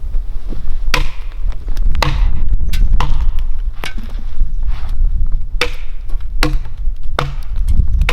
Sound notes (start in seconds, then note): 1.2 axe thudding; 1.2 thuds echoing